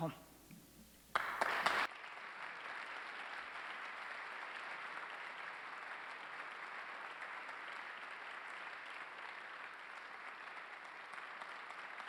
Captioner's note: applause